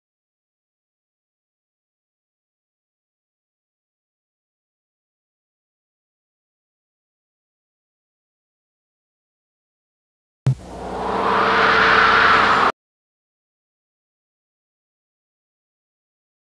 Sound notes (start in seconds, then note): 10.5 analog synthesizer whoosh sounds; 13.0 silence